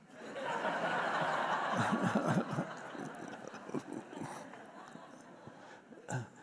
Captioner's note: audience laughs; Eckhart laughs